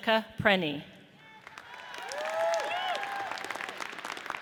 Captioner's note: audience cheers